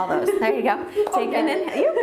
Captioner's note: laughing